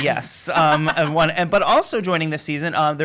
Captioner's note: laughing